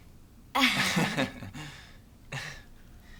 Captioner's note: laughs